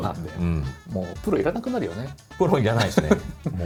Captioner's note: laughs